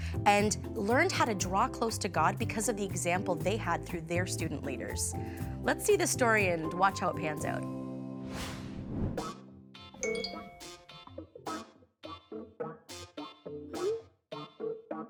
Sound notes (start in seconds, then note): 9.8 funky music; 10.0 message dings